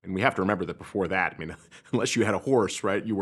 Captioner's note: chuckles